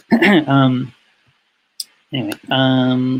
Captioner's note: clears throat